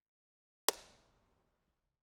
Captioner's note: clap